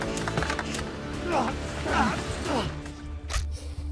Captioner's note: pained struggling; dramatic music